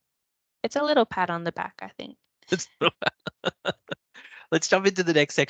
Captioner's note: chuckles